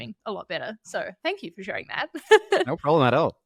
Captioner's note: laughing